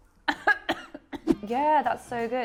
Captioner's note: laughing; coughing